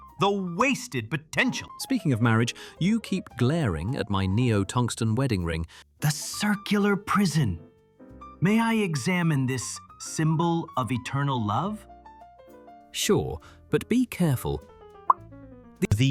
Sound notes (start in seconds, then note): 6.4 whispering